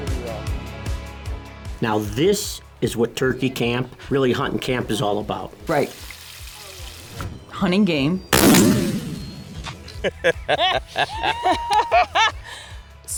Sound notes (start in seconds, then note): 8.3 gunshot; 10.0 laughter